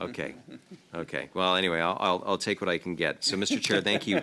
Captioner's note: laughter